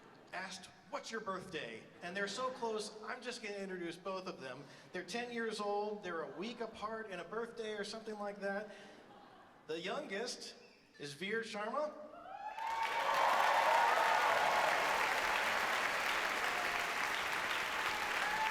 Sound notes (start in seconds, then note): 12.3 audience cheers and applauds